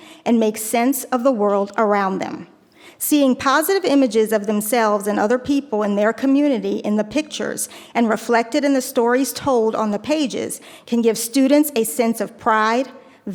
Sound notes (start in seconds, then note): none